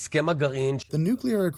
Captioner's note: through translator